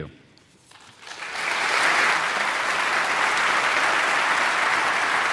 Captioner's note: audience applauding